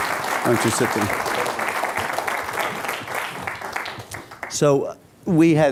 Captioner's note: applause